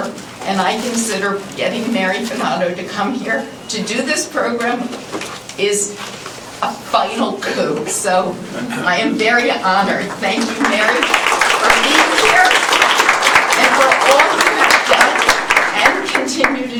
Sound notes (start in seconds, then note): 12.6 applause